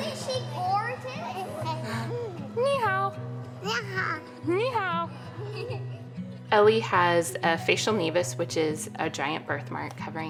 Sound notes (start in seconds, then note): 2.5 woman and child speaking in a foreign language